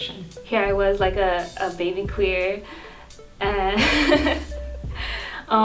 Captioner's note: laughs